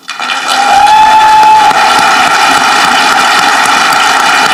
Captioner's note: audience clapping